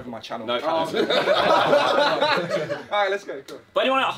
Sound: all laughing

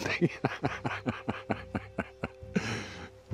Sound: laughing

